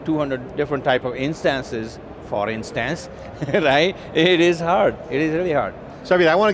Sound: laughs

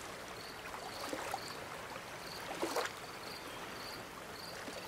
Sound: waves crashing

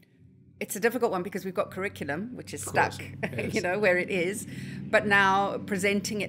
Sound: laugh

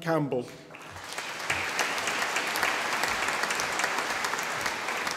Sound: audience applauding

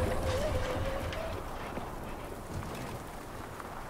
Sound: tire pops; metal scraping on road

